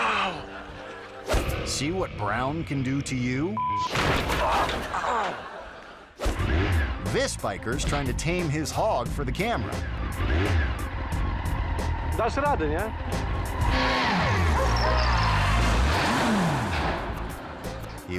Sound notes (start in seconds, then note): 0.0 driver groaning; 0.3 audience laughing; 3.5 beep; 3.9 bike smashing; 4.8 driver groaning; 6.3 bike revving; 8.2 logo whooshing; 10.2 bike revving; 12.4 speaking in a foreign language; 15.2 bike crashing; 15.2 bike revving